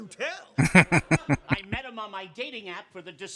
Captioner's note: chuckling